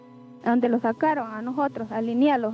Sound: speaking Spanish

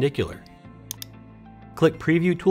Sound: mouse clicking

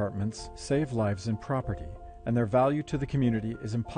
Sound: voiceover

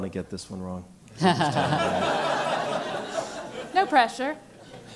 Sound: laugh

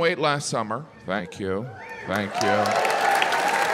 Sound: audience cheers

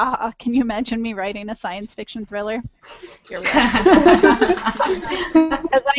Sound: laughter

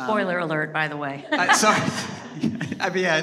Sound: audience laughing

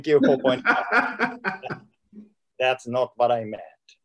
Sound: laughing

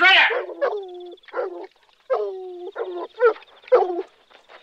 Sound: dog barking

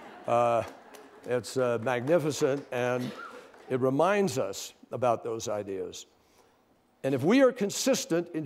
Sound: laughter and applause

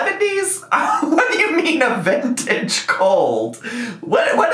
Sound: laughs

